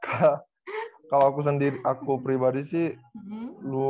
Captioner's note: hum